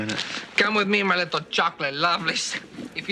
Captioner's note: foreign accent